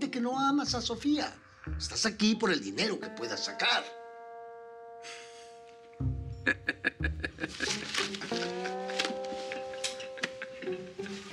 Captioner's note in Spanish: risas